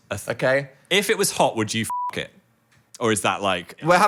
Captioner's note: beep